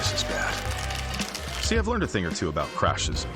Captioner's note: shell cracking